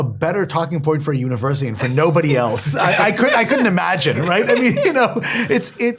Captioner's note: laugh